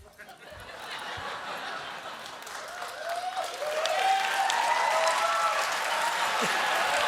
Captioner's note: applause; laughter; cheers; applause